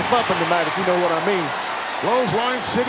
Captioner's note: audience cheering